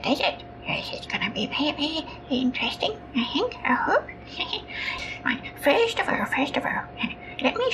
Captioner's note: chuckles